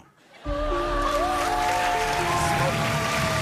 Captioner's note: laughter and applause